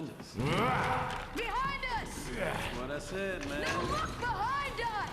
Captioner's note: none